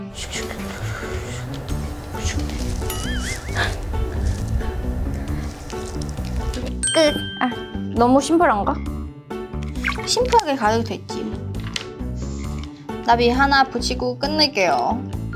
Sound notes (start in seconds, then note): 3.4 struggling noises